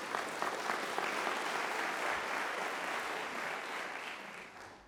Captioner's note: applause